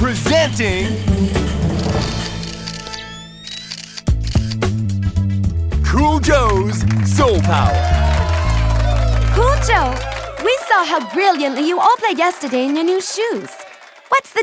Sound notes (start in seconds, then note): 1.9 cameras snapping; 7.7 crowd applauding; 7.7 crowd cheering